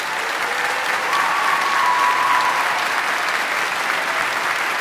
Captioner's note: audience applauding; audience cheering